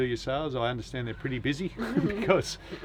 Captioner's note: laughs